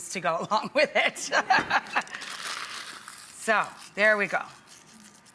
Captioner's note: laughs